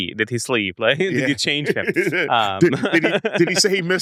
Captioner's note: laughs